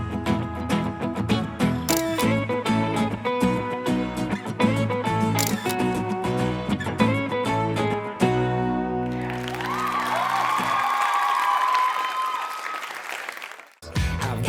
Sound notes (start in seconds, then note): 9.0 cheers and applause